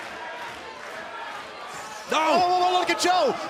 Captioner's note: crowd cheering